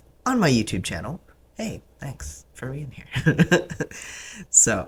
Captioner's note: laugh